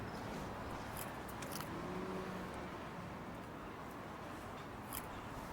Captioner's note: car engines revving